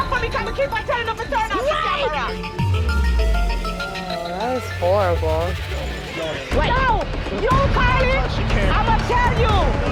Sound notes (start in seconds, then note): 6.0 people speaking indistinct